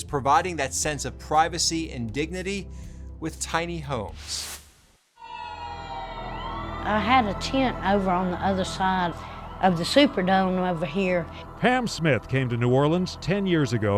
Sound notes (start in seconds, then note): 5.3 sirens wail